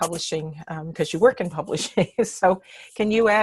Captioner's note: laughs